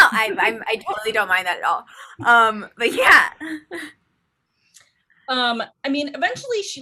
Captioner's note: laughs